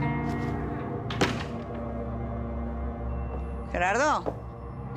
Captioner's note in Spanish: sonido al abrir la puerta; sonido al cerrar la puerta